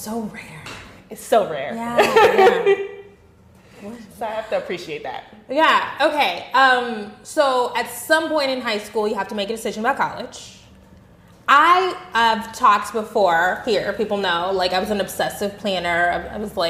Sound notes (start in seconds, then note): 2.0 laughing